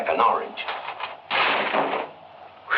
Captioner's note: paper ripping